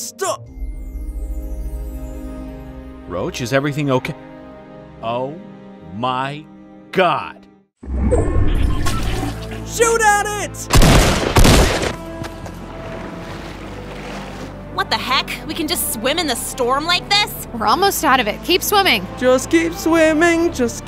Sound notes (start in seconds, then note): 0.0 upbeat ethereal music; 7.8 storm whirring; 10.7 gun firing; 12.3 upbeat music